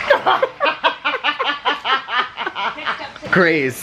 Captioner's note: laughing